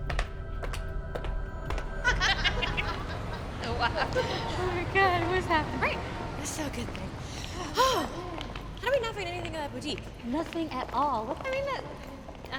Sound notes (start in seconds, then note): 0.2 tense music; 2.0 women laughing; 7.5 exhales dramatically